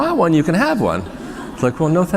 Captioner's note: laughter